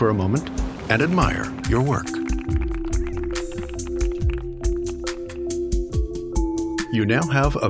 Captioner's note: applause